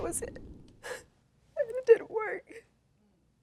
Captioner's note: sobbing